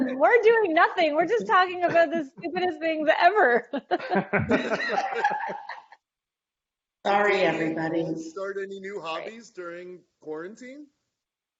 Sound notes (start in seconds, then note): 3.4 laughing